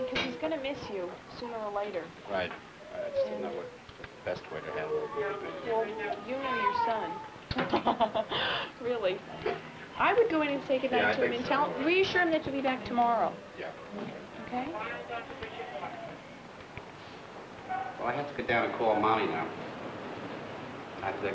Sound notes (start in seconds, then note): 7.5 laugh